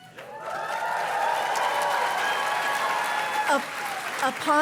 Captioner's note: audience cheers and claps